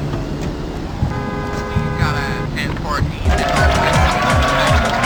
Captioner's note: horns blaring